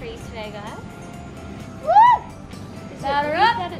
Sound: victorious shout

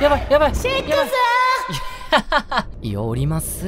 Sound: echoing girlish voice

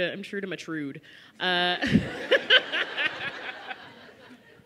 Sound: laughter

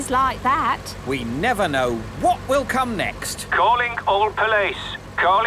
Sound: radio

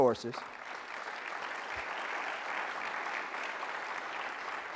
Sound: applause

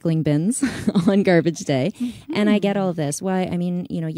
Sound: laughs

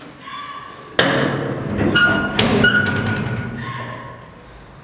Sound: crying loudly; door creaking

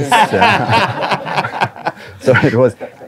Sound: everyone laughing

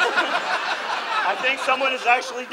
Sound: audience laughs

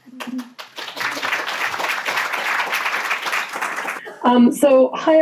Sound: audience clapping hands

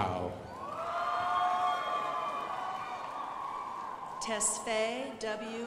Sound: crowd applauding

